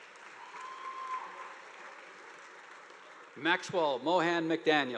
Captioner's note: audience applauding